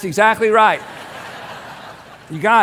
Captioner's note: congregation laughs